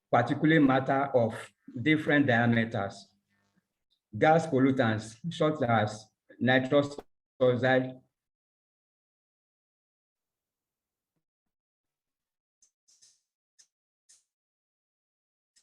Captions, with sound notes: particulate matter of different diameters, gas pollutants such as (AUDIO DISTORTS) (MOUSE CLICKING)